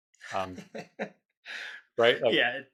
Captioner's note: laughing